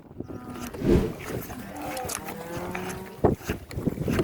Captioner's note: cows mooing; cows smacking